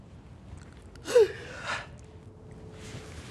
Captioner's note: yawning